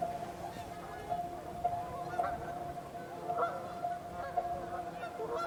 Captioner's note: geese honking